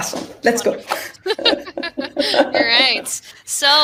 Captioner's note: laughing